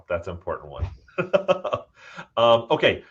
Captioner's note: both laughing